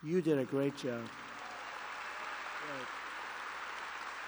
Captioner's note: applause